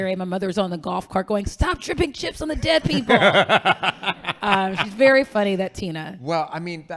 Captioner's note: laughing